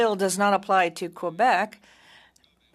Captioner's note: speaking French